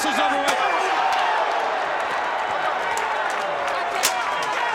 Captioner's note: crowd groaning